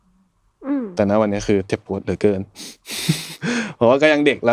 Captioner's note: laughs